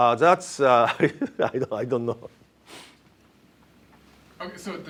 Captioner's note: laughs